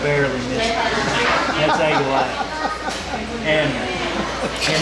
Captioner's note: laughing